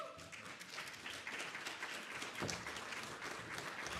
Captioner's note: applause